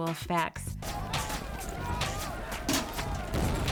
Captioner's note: all shouting